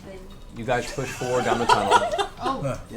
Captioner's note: all laugh